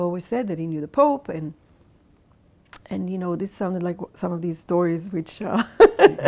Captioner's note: laughs